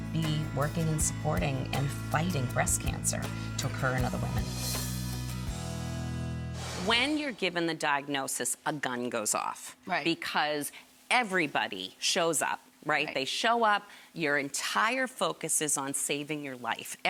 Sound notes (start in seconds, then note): 4.5 shimmering whooshing sound; 5.4 gentle music; 6.5 whooshing sound